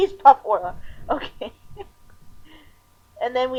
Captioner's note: laughing